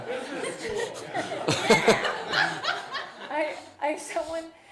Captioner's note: laughter